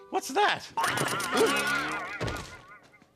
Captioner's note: exclaims